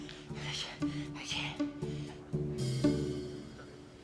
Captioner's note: French; light music